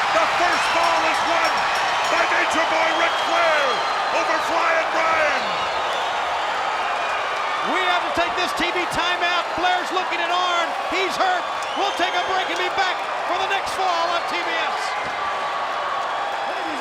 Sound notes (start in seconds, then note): 0.0 spectators cheering and applauding; 5.8 spectators cheering and applauding; 15.2 spectators cheering